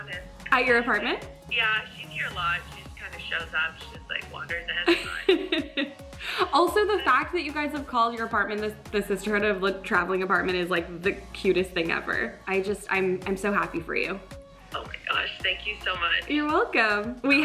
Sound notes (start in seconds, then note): 5.2 laughs